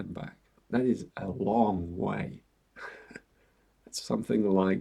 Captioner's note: chuckles